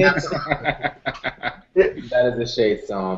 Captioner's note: laughter